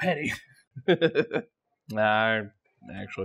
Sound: chuckles

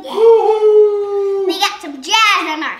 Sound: cheering

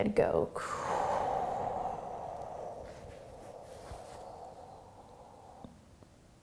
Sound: exhaling and inhaling

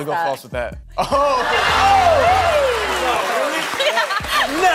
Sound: audience laughing

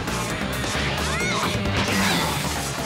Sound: grunting

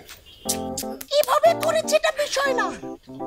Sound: in a feminine voice

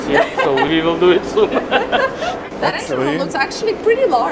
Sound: group laughing

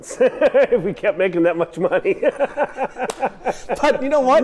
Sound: laughing

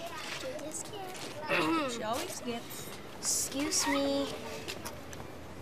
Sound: indistinct chatter; clears throat

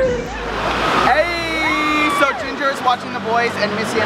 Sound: yell

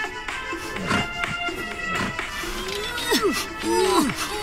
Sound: crocodile panting

